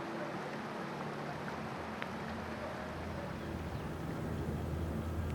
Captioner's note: running water